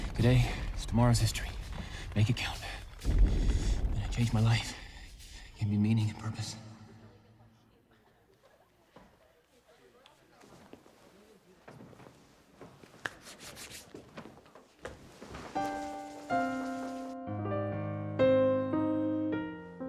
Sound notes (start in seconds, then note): 9.9 students murmuring; 12.8 hands brushing; 15.5 gentle piano music